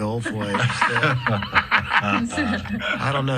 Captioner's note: laughter